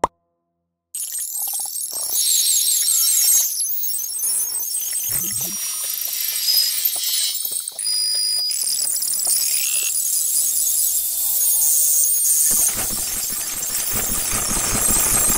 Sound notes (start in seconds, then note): 1.0 super duper cool glitchy sounds playing